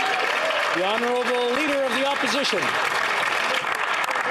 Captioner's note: speaking French